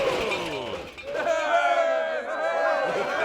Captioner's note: crowd cheering; giggling